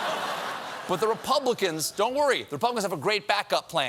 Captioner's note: laughter